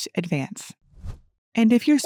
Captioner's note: transition whooshes